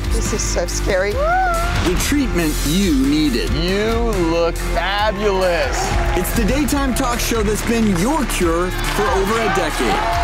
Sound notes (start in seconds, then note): 1.2 screams; 9.9 cheering